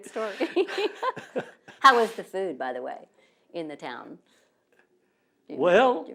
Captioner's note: laughter